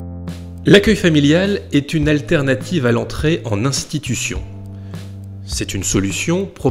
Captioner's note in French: Voix off